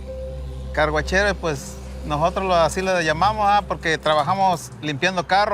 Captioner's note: speaking in Spanish